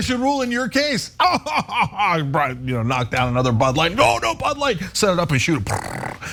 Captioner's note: laugh